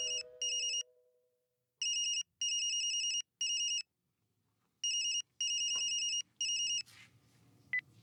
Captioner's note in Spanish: Suena el celular